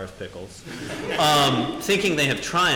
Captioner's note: audience laughing